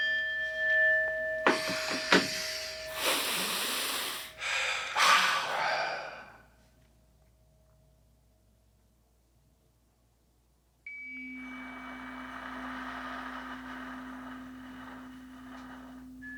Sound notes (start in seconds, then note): 0.0 chime rings; 1.4 guide inhales; 3.7 inhales; 5.0 guide exhales; 5.0 men exhale; 10.9 chimes ring; 11.2 slow breathing